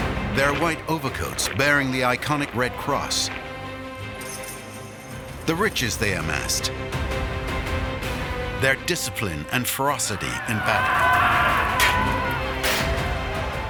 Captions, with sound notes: Their white overcoats, bearing the iconic red cross... the riches they amassed... their discipline and ferocity in battle. (Men shouting)